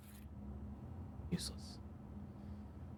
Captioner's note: whispering